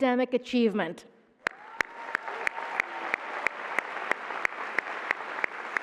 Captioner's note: applause